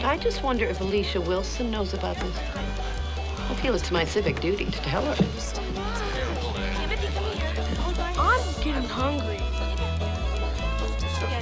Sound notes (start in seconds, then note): 5.8 townspeople muttering